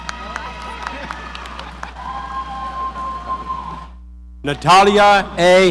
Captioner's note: audience applauding